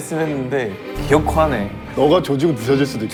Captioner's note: teeth clenched